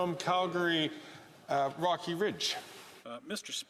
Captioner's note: SpeakingFrench